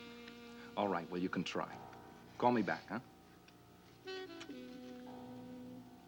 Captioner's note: kiss noise